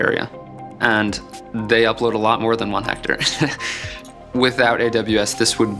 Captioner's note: laughs